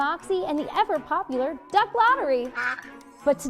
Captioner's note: duck quacks off-screen